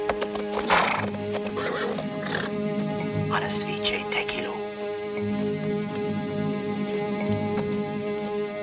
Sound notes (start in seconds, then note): 0.4 Iltschi snorts; 3.8 whispers